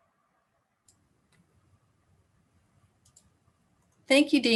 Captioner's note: mouse clicks